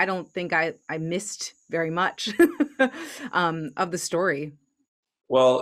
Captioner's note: laughs